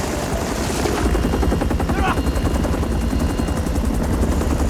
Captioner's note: Korean